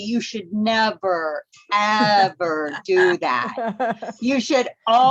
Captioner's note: laughter